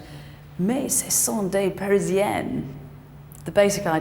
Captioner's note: speaks in foreign language